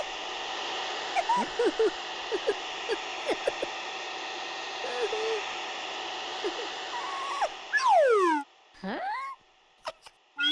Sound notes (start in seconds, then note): 0.8 giggling